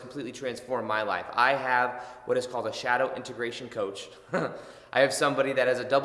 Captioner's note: chuckles